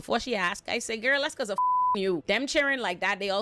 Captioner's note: beep